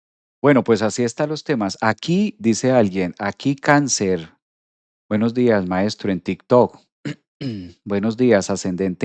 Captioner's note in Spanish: carraspeo